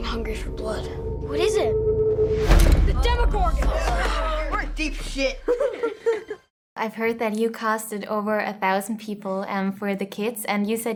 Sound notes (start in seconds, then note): 3.6 all groaning; 5.3 laughing